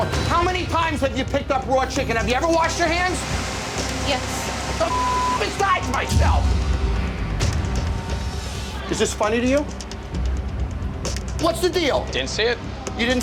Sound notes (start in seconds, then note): 4.8 beep